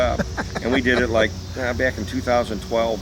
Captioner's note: laughing